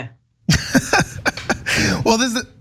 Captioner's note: laugh